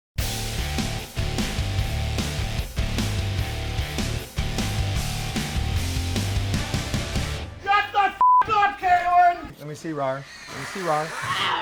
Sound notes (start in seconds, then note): 8.2 beep; 10.3 roaring